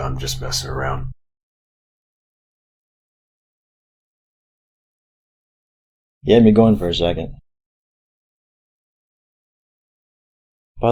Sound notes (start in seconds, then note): 1.5 long silence; 7.9 long silence